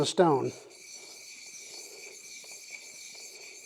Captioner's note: scraping